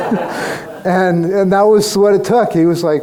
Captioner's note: crowd laughs